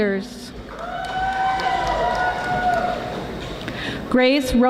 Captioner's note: audience applauding